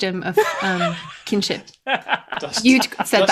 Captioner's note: laughter